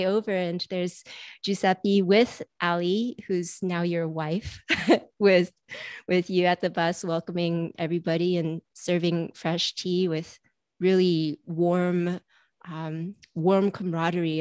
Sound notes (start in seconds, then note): 4.5 chuckles